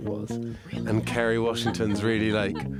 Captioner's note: interviewer laughing